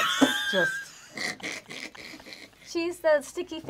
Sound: laughs

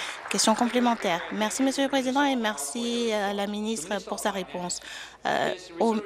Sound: applause

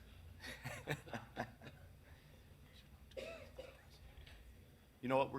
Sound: people chuckling

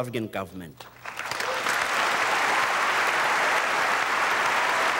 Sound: audience applauding

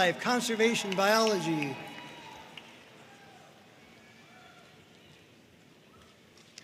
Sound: audience cheering and applauding

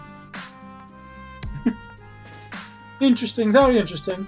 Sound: chuckles

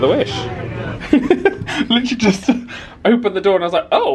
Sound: laughs

